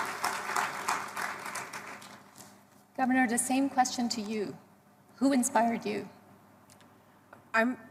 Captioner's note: applause